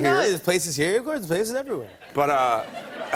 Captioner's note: laughter